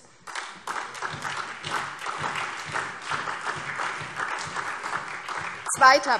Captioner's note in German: Beifall SPD